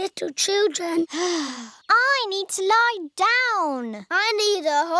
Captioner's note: sighs